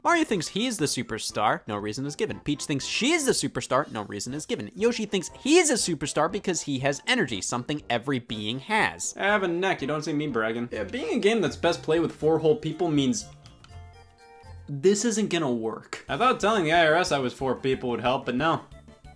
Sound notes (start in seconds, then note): none